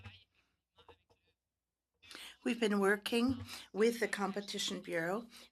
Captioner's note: speaking French